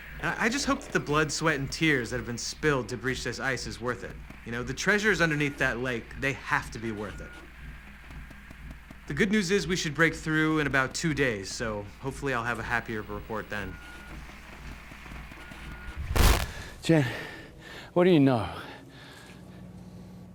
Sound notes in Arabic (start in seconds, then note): 16.4 يتنفس بصعوبة